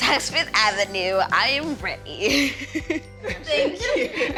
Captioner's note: chuckles